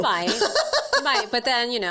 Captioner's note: laughing